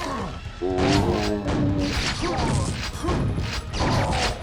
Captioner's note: zombie groan